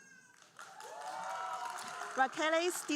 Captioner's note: audience cheering and applauding